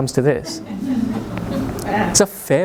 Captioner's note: audience chuckles